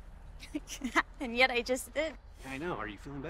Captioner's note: chuckles